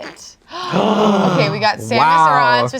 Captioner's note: all gasp